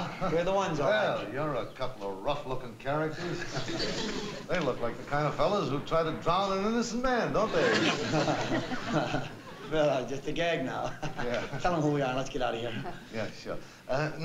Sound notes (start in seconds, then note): 7.4 chuckling